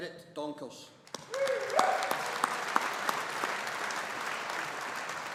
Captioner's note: audience applauding